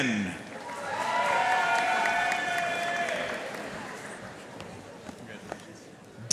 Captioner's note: audience cheering and applauding